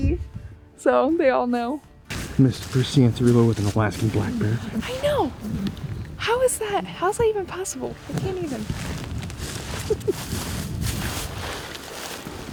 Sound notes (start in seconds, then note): 9.1 footsteps thudding